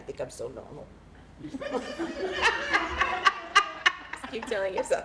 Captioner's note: laughter